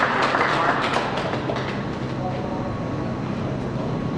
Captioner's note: applause